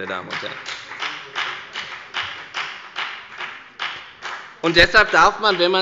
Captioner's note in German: Beifall bei der FDP